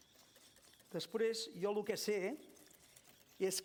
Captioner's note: non-english speech